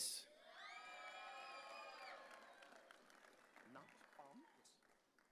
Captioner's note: audience cheering